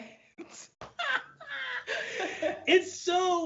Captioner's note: both laugh